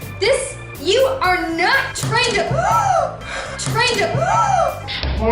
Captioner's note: gasps